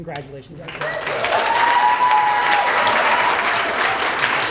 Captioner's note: applause